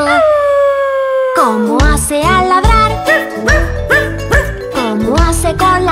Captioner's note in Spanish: Aullido; Ladrido